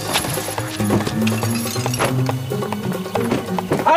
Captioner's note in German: Es klirrt im Sack